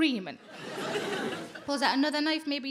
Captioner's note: audience laughing